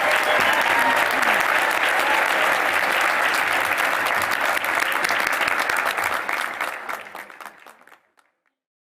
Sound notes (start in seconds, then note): 0.0 applause